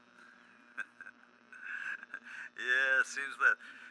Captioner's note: laughs